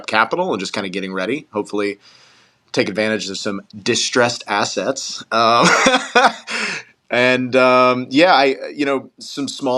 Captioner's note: laugh